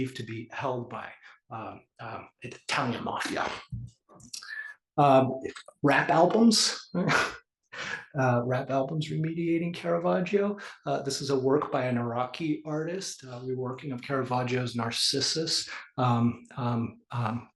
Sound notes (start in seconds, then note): 7.8 laugh